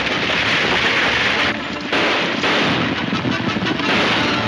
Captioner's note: gunshots banging